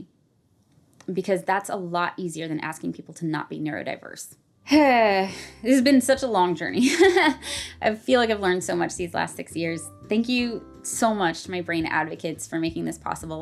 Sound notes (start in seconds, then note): 5.0 sighs